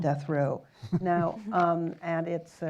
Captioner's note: chuckles